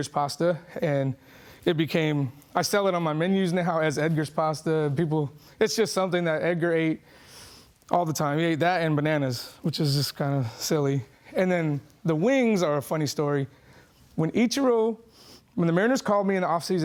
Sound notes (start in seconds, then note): none